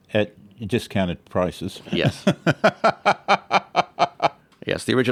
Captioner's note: laughs